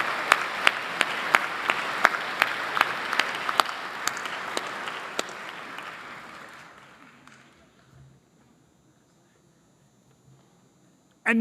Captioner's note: applause